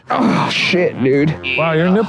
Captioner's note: grunts